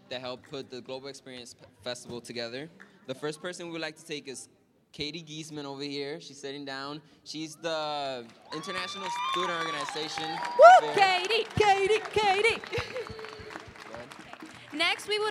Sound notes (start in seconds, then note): 8.9 cheering, applause; 13.3 applause